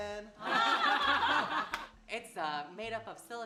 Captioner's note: laughing